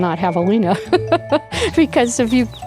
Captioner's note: laughter